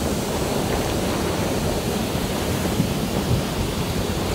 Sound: water splashing

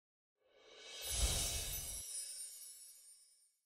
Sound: screen whooshing

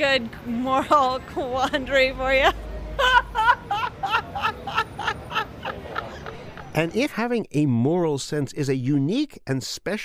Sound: laughs

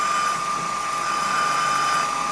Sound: whirring

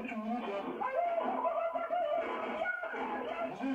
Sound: shots fired

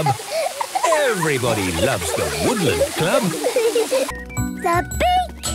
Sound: laughter

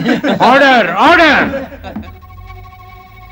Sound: laughs; gavel tapping

